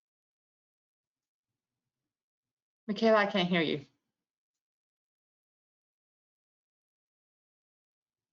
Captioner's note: silence; silence